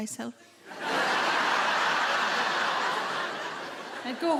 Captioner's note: audience laughing